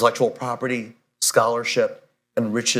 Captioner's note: none